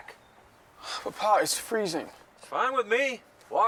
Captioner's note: sighs